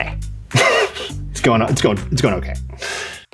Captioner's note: chuckles